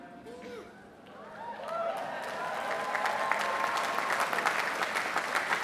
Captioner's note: applause